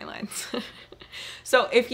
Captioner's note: chuckling